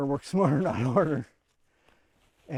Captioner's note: laugh